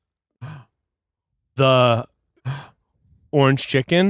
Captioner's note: gasping; gasping